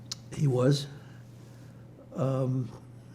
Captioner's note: pauses 6 seconds